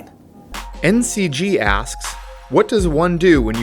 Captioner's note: voiceover